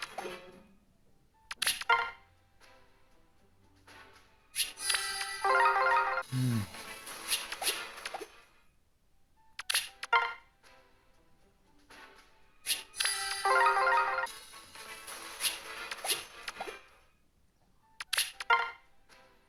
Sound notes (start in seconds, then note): 6.2 sigh